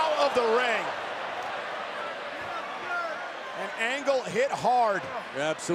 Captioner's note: applause